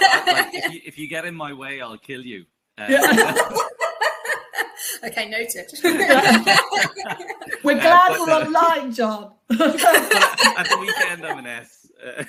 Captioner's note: all laugh; laughs